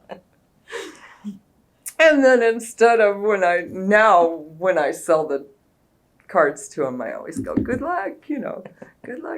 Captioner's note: laughter